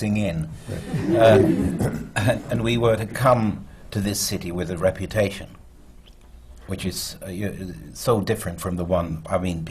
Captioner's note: laughter